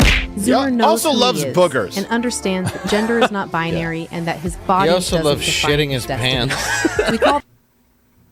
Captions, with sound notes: - Yeah, also loves boogers. - Zoomer knows who he is, and understands that gender is not binary-- - He also loves shitting his pants. [everybody laughs]